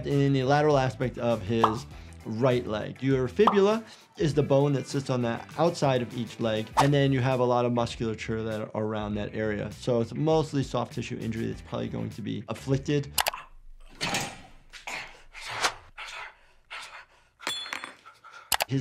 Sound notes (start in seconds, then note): 14.0 metal clanks; 17.4 glass clatters